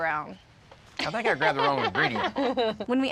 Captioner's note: laughs